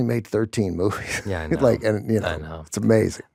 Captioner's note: chuckles